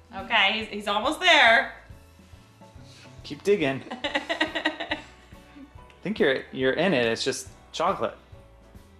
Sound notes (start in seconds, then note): 3.9 laughing